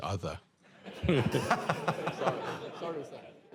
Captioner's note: laughter